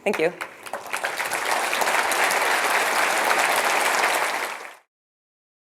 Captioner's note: applause